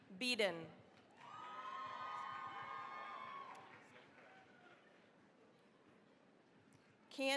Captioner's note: cheering, applause